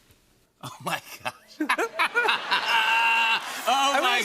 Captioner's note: laughter